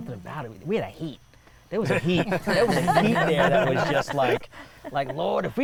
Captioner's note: others laughing